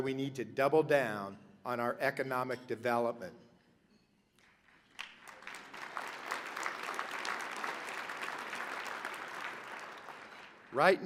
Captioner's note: applause